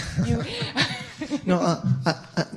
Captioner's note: laughter